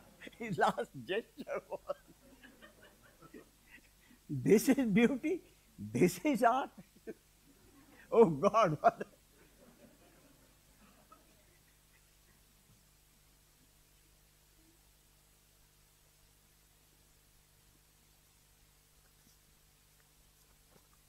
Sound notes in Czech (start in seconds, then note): 9.5 smích